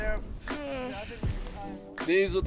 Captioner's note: moans